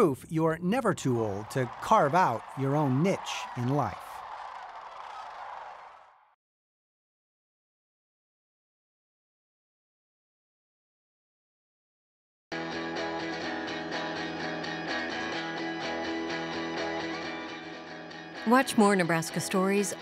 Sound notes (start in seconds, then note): 3.8 cranes squawking; 12.6 upbeat music